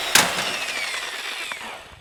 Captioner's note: component whirring; tool thudding